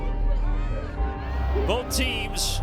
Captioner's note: crowd chattering